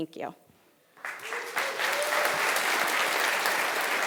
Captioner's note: applause